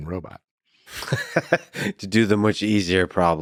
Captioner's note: Lex laughs